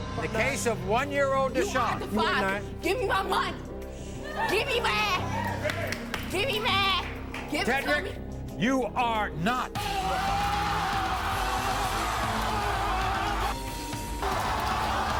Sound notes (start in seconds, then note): 9.8 screaming; 12.0 audience cheering